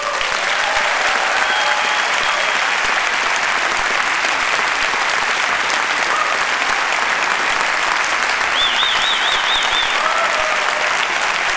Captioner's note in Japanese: 拍手